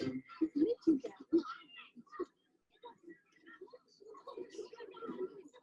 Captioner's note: children chattering faintly